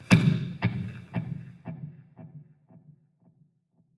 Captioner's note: loud thumping; strong tapping